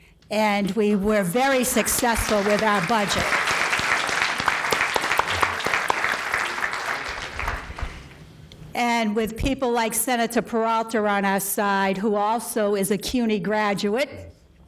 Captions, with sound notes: And we were very successful with that budget. (applause) And with people like Senator Peralta on our side, who also is a CUNY graduate